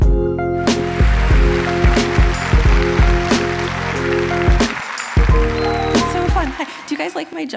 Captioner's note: applause